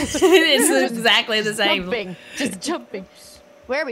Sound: laugh

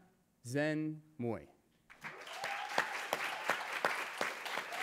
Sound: cheering

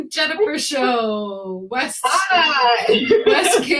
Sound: laughs

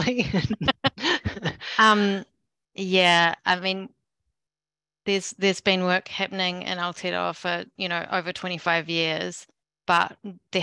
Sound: laughter

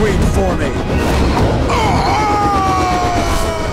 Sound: screaming

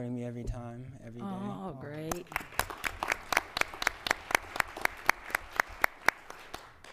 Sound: applause

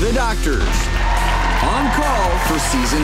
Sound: crowd screams

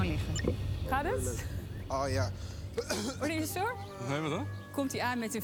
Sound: coughing

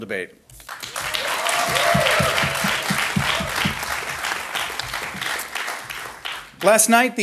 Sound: audience applauding

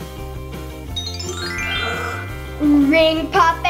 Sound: magical sound

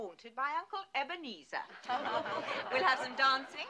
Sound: all chuckle

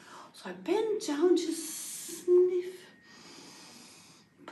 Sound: big inhale of breath

